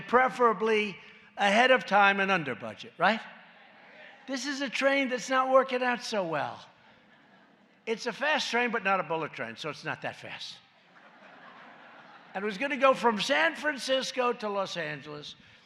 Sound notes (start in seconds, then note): 10.8 laughter